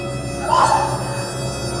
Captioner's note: screams